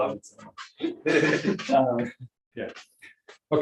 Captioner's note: laughter